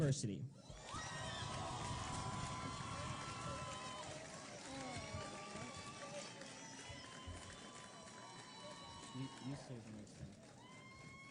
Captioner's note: cheering